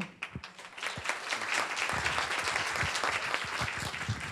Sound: attendees clapping

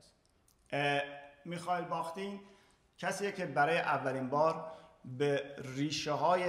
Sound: speaking in farsi

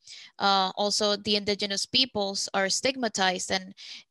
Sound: speaking Spanish

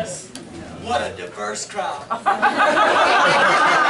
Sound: laughter

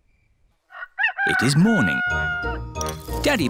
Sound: rooster crows

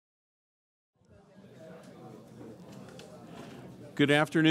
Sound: audience murmuring

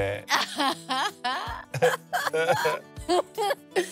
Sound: both laughing

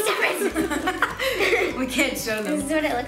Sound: laughs

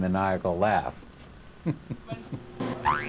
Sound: chuckling

